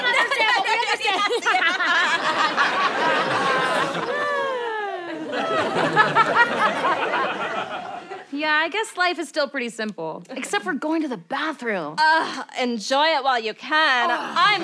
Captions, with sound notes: She doesn't understand, but we understand. Yeah. [laughter] [sighs] Yeah, I guess life is still pretty simple, except for going to the bathroom. Oh, enjoy it while you can.